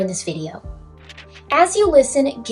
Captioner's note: page turning